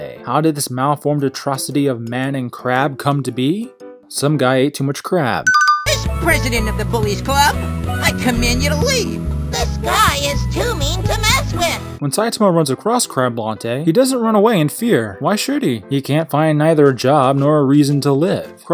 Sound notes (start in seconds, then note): 5.4 "Correct!" sound effect